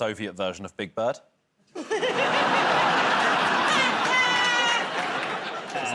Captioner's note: laughter